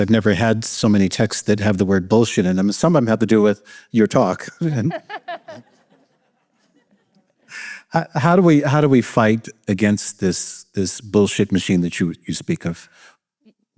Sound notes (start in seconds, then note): 4.6 laughter